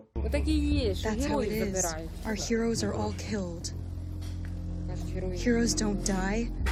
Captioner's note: through translator